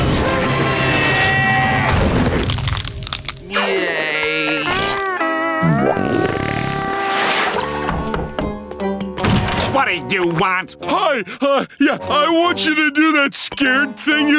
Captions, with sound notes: [screaming] [groaning] [knocking] What do you want? Hi, uh, yeah. I want you to do that scared thing you did